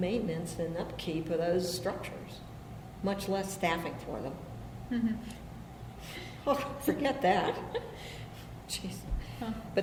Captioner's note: BOTH laugh